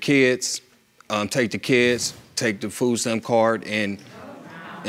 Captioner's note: audience exclaims